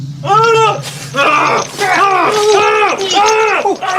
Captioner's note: monster yelling